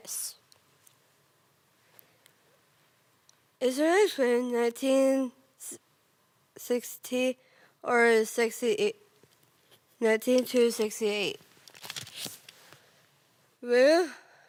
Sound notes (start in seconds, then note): 0.3 rustling; 11.2 paper shuffling